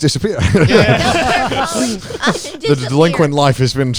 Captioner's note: everyone laughing